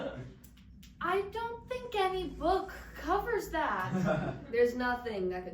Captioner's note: audience laughs